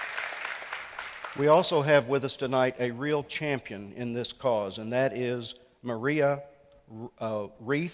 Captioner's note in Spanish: Aplauso